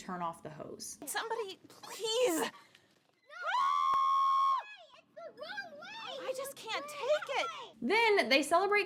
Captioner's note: screams